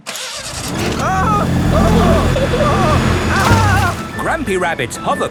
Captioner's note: grandpa screaming